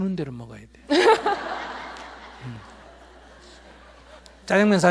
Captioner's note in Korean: 청중 웃음